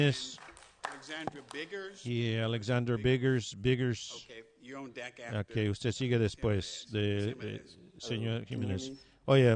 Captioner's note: applause